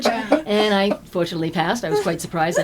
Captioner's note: laughter